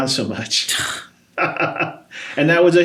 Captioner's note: both laugh